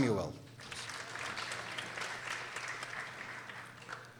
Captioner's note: people applauding